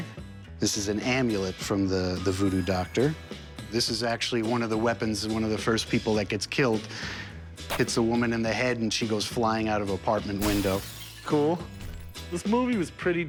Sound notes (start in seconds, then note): 10.4 glass breaking